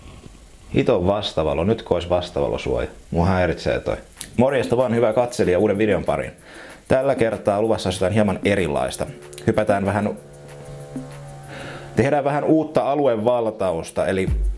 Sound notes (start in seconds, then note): 10.1 drill sounds